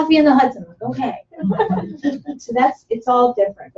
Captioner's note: laughter